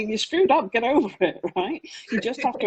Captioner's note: laughs